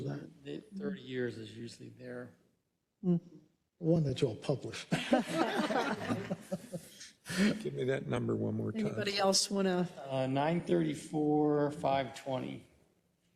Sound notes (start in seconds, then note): 4.9 laugh